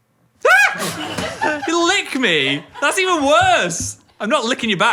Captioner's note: yelps